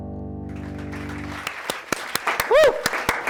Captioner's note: applause